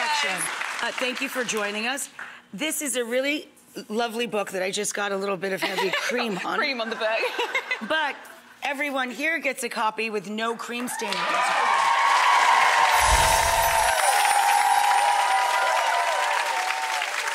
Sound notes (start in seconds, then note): 7.3 audience laughing; 11.1 audience applauding; 12.9 chiming